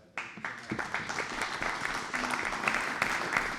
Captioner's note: applause